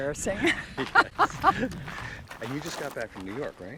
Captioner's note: laughing